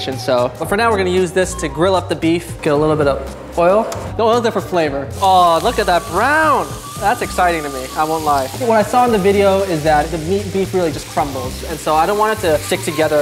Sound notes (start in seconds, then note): 5.2 meat sizzling